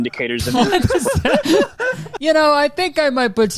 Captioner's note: Nick and Kurtis laughing